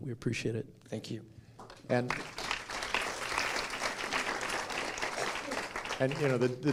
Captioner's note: applause